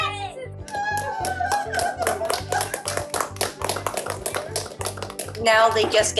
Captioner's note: children screaming, cheering; woman sobbing, applause